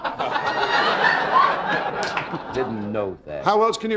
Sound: audience laughing

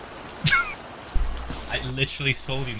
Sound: sizzling from rain; Philza laughs

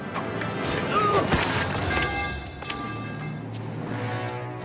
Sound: punches landing; screaming

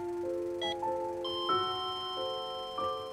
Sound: monitor flatlines

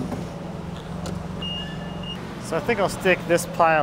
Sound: beeping

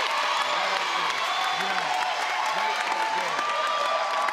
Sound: crowd cheering

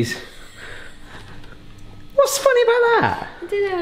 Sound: laughing

